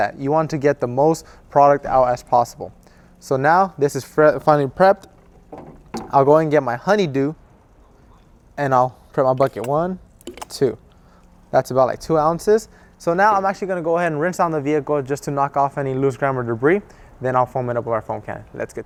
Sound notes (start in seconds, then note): 10.2 product squirts